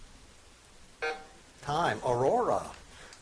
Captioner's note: buzzer beeping